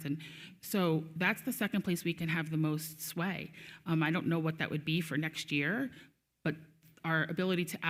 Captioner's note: none